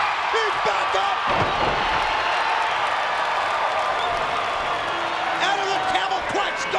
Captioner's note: crowd cheering; wrestlers thudding